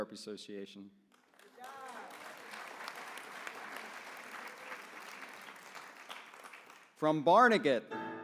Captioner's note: applause